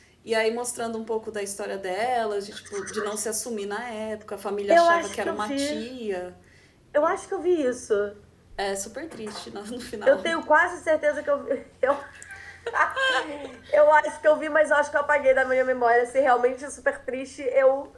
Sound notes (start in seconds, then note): 11.8 laughter